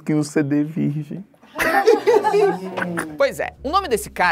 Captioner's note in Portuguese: risadas